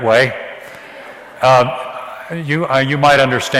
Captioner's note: audience laughs